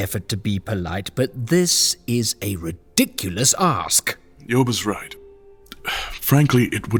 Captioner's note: sighing